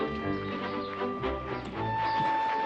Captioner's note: birds chirping